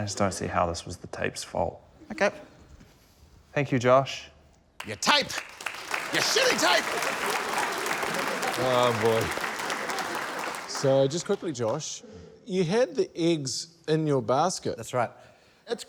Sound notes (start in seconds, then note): 7.6 applause